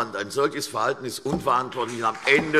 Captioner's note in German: Beifall CDU und BÜNDNIS 90/DIE GRÜNEN